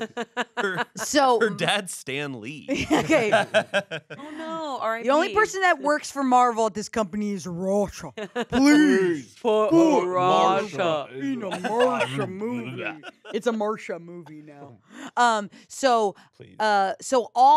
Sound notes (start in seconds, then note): 0.0 laughs; 2.8 everyone laughs